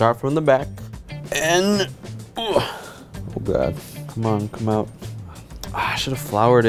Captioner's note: groans